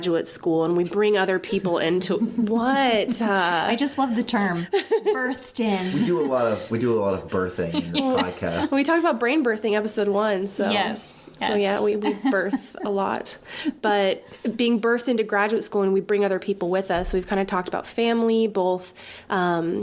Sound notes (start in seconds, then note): 2.2 laughing